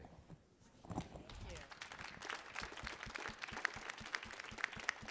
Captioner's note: audience applauding